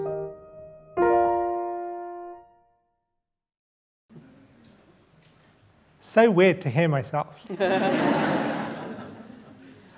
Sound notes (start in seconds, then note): 0.0 gentle piano music; 7.4 laughter